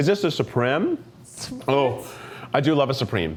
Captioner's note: scoffs